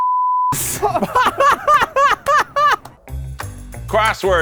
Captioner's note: laughter